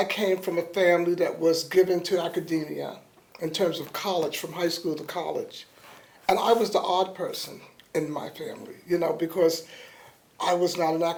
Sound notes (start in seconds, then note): none